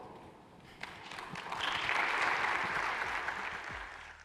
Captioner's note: applause